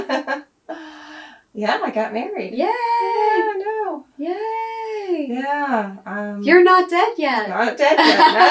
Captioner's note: laughs